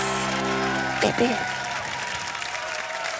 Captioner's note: applause